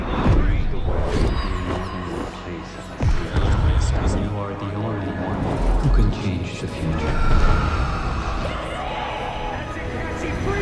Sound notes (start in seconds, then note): 7.5 shouts